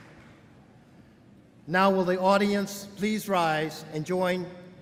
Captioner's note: applause